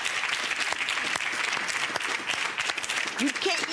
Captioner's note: audience applauds